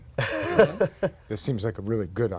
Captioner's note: laughter